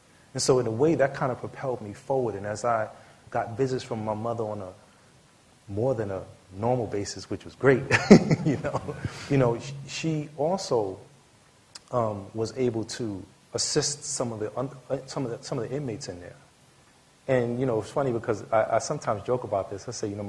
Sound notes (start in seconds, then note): 7.8 laughter